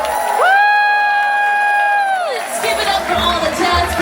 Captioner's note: audience applauding and cheering